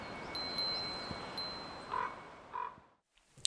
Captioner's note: chimes ringing